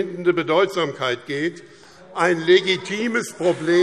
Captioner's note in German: Beifall BÜNDNIS 90/DIE GRÜNEN und CDU - Lebhafte Zurufe SPD